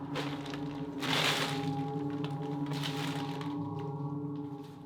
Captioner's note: tarp crinkling